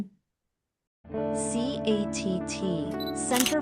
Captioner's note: camera shutter clicking